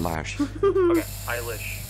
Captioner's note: chuckles